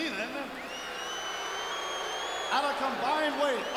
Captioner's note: audience booing